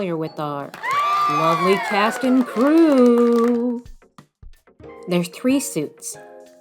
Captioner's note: cheering and applause